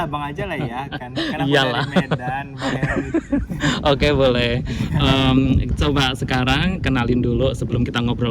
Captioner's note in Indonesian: tertawa